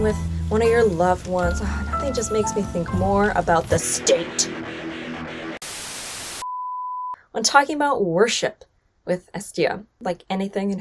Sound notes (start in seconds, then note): 3.7 static buzzes; 4.8 upbeat rock music; 6.3 beep